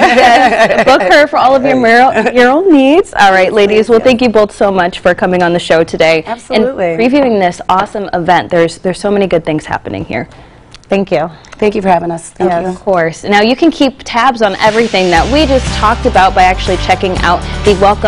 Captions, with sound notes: THIS ARTIST DID THE OUTLINE FOR ME. (LAUGHTER) SARAH ROBB. BOOK HER FOR ALL OF YOUR MURAL NEEDS. ALL RIGHT. LADIES, THANK YOU BOTH SO MUCH FOR COMING ON THE SHOW TODAY. ABSOLUTELY. WE ARE PREVIEWING THIS AWESOME EVENT. THERE ARE SO MANY GOOD THINGS HAPPENING HERE. THANK YOU. THANK YOU FOR HAVING US. NOW, OF COURSE, YOU CAN KEEP